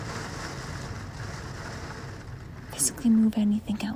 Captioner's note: loud Rain